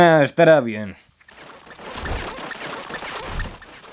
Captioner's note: Gloink squeaking rapidly